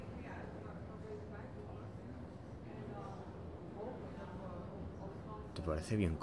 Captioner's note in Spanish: Pasos y conversaciones de fondo; Conversaciones de fondo